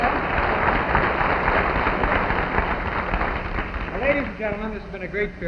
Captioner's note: audience clapping